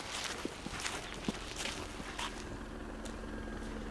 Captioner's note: helicopter whirring